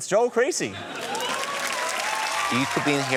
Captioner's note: applause